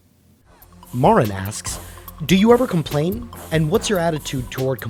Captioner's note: voiceover